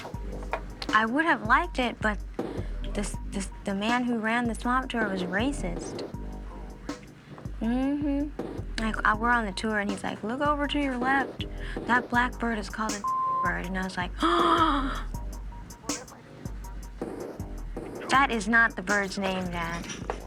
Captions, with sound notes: I would've liked it, but the man who ran the swamp tour was racist. Like, we're on the tour and he's like, look over to your left, that black bird is called (beep) bird. And I was like, (gasp). That is not the bird's name, dad.